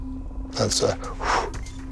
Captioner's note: huffing